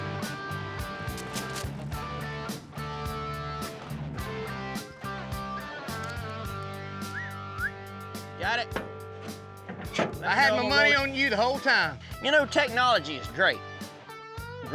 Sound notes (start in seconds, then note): 7.0 whistles